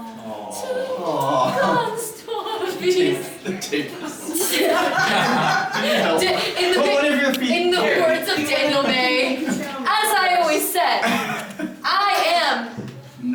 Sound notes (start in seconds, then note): 4.9 cast members laughing